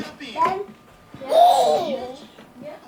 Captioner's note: baby squeals happily